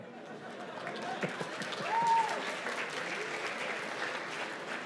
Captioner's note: cheers and applause